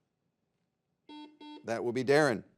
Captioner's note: buzzer beeps